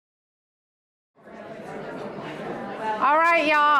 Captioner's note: crowd chatters